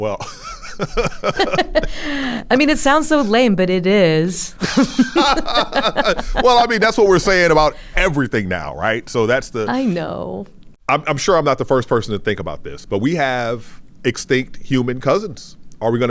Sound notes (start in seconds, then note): 0.2 laughs; 4.1 laughs